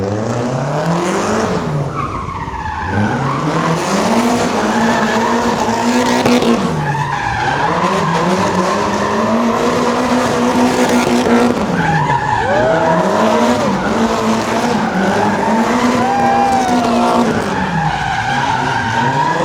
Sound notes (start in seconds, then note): 0.0 engine revving; 1.9 tires screeching